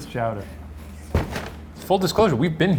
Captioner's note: bag thudding